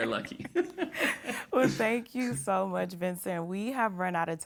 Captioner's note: laughs